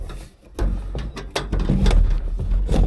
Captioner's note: metal clanking